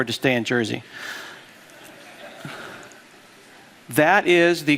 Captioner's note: laughter